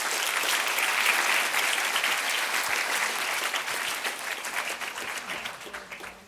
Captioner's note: applause